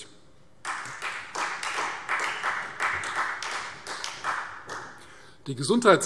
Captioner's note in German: Beifall Freie Demokraten